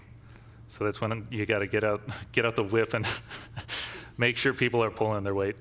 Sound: laughs

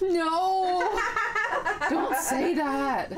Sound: laughing

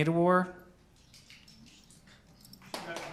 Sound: applause

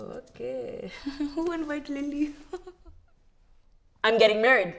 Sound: chuckles

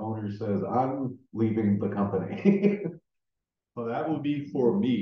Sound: chuckling

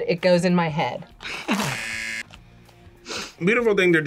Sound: laughs; buzzer

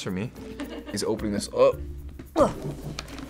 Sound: grunts

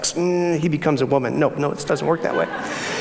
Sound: audience laughs

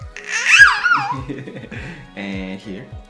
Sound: Jasmine laughing

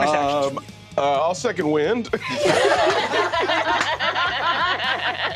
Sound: all laughing

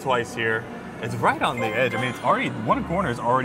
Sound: screen chiming

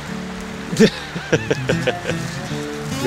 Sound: laugher

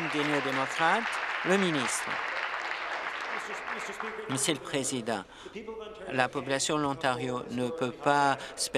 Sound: applause

